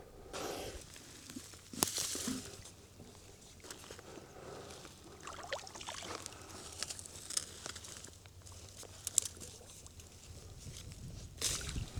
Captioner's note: water splashing